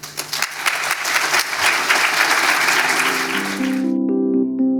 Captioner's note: audience applauding; gentle instrumental music